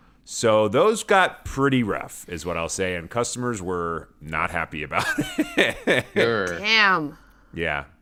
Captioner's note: laughter